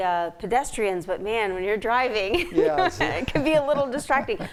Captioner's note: chuckles